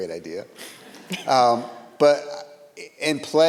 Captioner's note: audience laughs